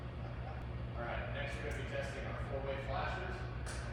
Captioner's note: lights click